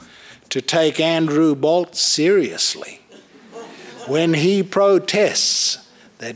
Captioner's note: laughter